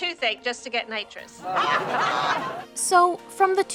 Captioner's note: laughing, all taking a drink